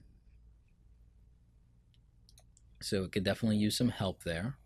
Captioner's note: clicking